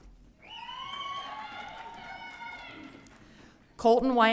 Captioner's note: audience cheering